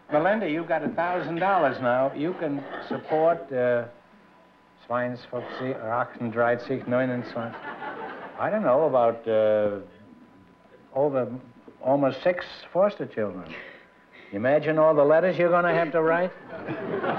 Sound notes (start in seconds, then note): 5.0 speaking german